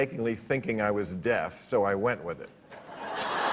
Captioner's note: laughter